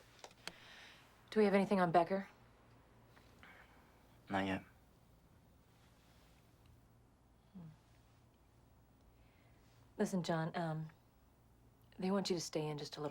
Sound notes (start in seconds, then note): none